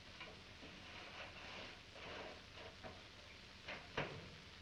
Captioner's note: none